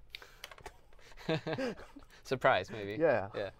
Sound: laughs

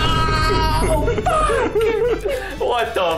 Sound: laughing; three vine booms in rapid succession

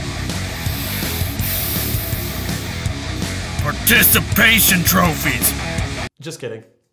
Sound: breathing loudly

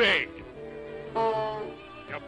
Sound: goose Honk

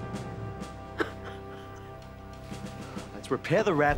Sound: crying

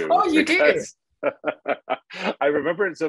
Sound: laughing

